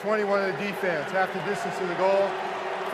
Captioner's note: booing